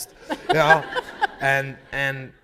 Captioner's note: laughter